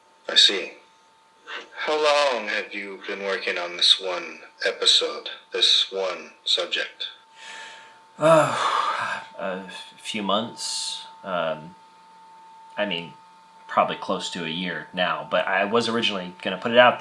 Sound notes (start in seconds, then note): 8.2 sighs